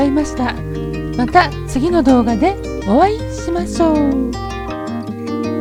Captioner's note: laughs